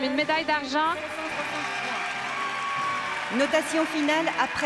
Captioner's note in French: acclamations